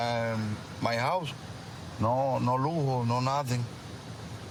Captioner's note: speaking spanish